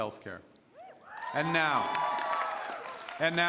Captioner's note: applause